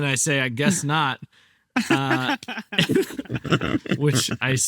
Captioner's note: group laughing